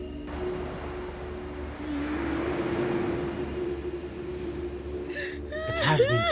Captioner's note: ethereal music; waves crashing